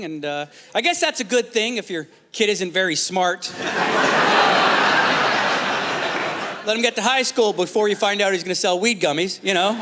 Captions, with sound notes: I guess that's a good thing if your kid isn't very smart. (Laughter) Let him get to high school before you find out he's going to sell weed gummies, you know?